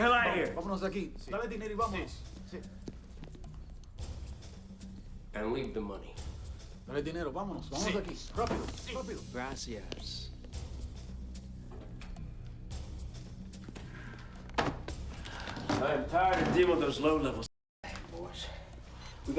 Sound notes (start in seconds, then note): 1.0 gangsters speaking in Spanish; 7.1 gangsters speaking in Spanish; 14.2 bag thuds